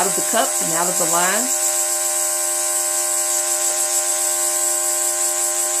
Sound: airbrush begins spraying

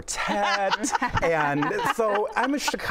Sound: laughing

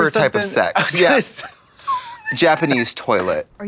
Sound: Katya pants

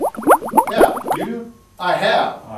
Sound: water gurgles

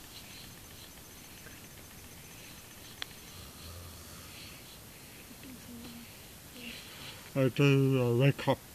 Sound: mimics snoring

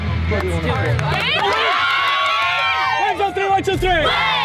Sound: cheering

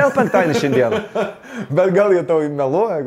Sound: both chuckle

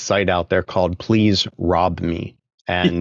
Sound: laughing

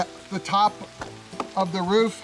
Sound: taps roof

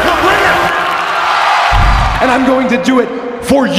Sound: cheering

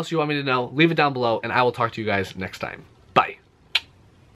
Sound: finger gun and clicking noise

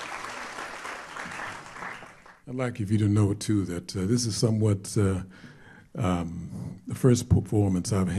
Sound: applause

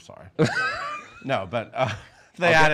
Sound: Erich laughs

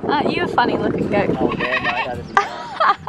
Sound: goat baas; laughing

